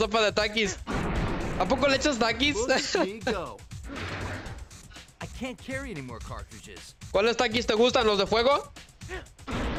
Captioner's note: laughter